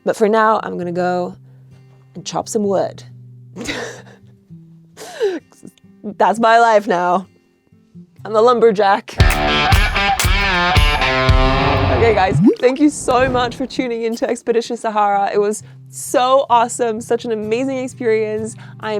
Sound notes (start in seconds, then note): 3.6 laughs; 9.2 upbeat rock music